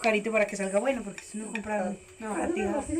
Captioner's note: laughs